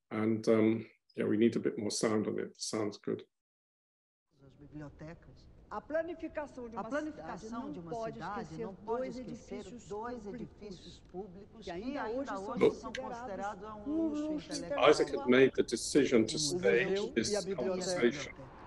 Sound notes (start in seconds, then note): 6.1 speaking in foreign language